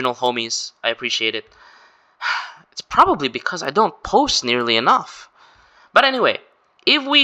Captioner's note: sigh